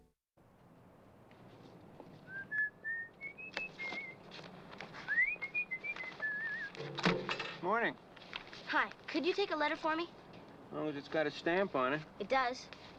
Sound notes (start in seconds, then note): 5.0 whistling; 6.8 mail Hitting Mailbox